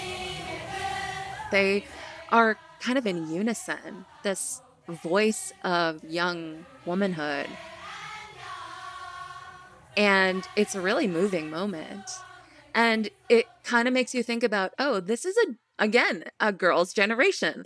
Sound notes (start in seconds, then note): 0.0 singing in Korean; 0.0 soundbite of protest; 7.0 soundbite of protest; 9.1 singing in Korean